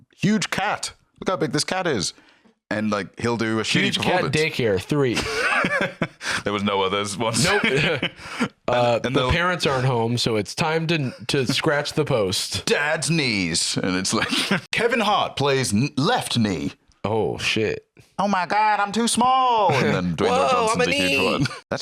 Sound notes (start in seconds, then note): 7.2 laughs